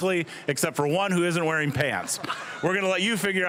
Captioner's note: all laughing